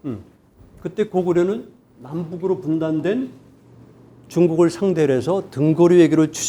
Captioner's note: speaking in Korean